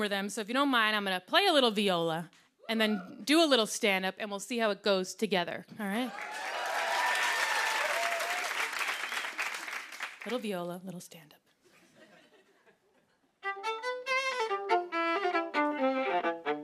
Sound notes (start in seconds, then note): 6.0 cheering and applause; 11.6 laughter; 13.5 playing upbeat tune